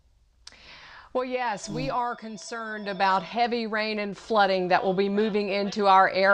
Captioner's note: phone ringing